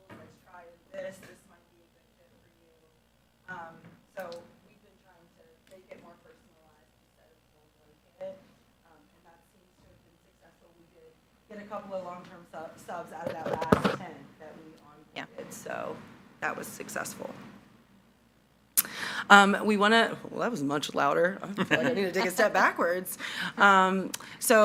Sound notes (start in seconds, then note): 8.1 speaking faintly